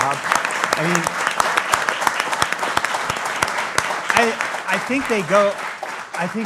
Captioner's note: applause